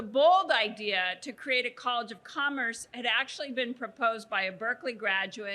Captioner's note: none